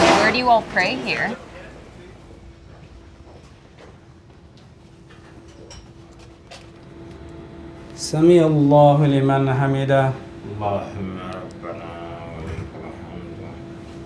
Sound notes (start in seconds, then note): 7.9 non-english speech